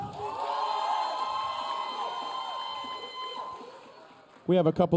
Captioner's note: audience cheering